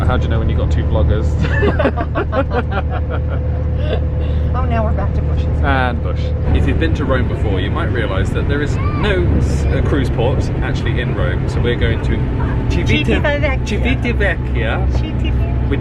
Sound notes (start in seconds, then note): 1.4 both laughing